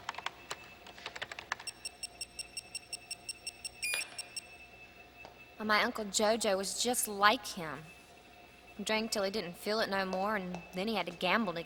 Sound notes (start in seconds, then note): 5.3 beeping